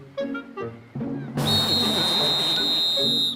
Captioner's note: whistle blowing